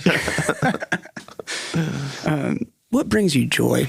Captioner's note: laughing